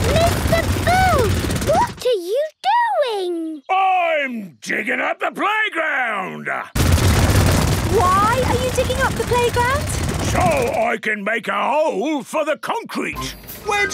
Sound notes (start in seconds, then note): none